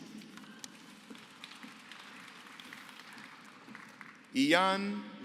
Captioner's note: applause